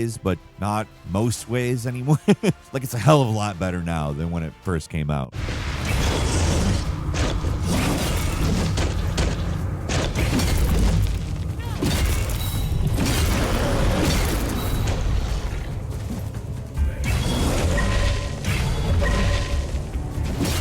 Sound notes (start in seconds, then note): 2.0 laughs; 6.1 wraith growling